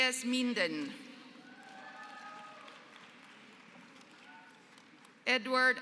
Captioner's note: applause